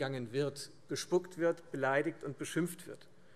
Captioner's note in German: none